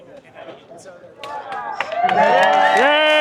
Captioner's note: cheering